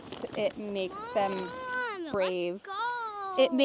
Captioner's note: impatiently